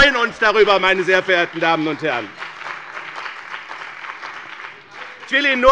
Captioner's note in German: Beifall bei dem BÜNDNIS 90/DIE GRÜNEN und der CDU